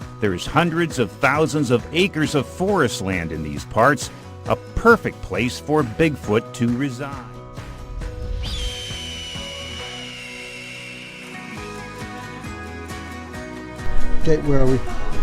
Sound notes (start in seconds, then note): 8.4 bird chirping; 11.2 upbeat music